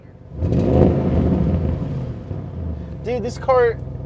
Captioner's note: car revving